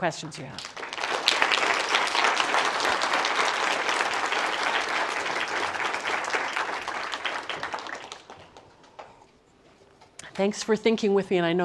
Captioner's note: applause